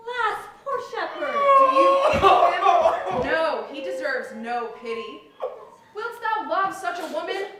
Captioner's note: SILVIUS cries